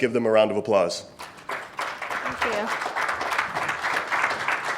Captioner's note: attendees clapping